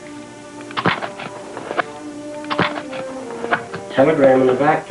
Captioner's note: paper rustling